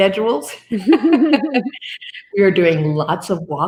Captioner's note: laughing